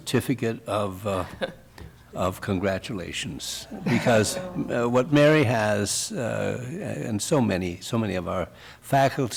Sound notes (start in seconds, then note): 0.1 laughter